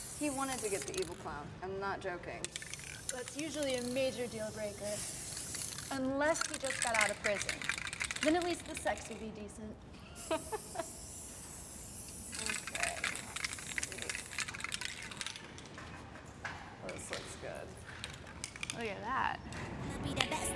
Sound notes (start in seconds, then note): 10.0 Abby laughs; 11.8 spray can hisses; 11.8 spray can rattles; 19.9 upbeat music